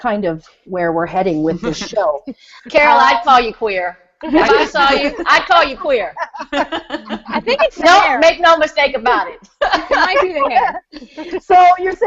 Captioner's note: everyone laughing; still laughing